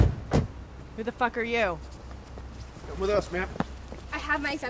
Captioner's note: vehicle approaches